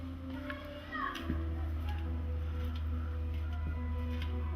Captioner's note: children playing in background